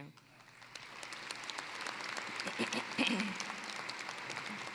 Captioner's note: applause